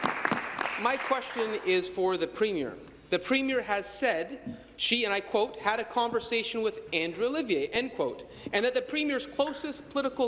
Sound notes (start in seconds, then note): 2.5 applause